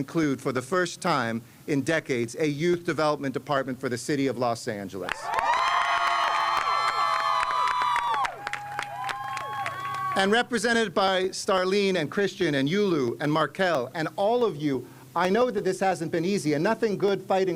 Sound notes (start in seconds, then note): 7.8 cheers and applause